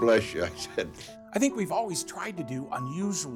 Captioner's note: chuckles